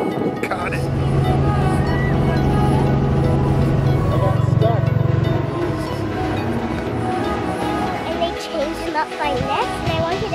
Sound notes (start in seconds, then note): 2.0 helicopter whirring